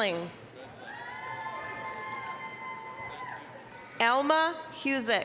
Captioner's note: applause, cheering